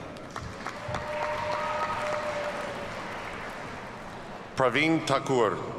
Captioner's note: audience cheers and applauds